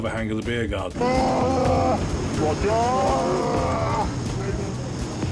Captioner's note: casualty groans